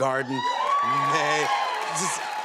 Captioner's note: cheers and applause